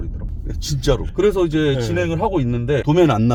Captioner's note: none